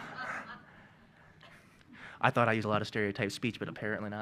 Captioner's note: laughing